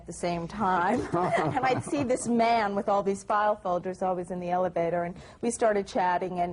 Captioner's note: laughter